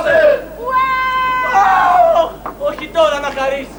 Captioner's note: κλάμα μωρού